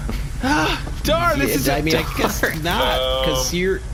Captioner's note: excited